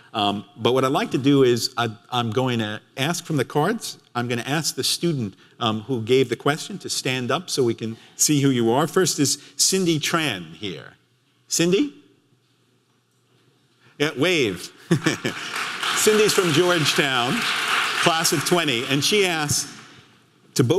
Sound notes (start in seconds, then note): 14.2 audience clapping; 14.9 laughs